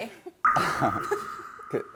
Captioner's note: sound effects ignoring him; sad sound effect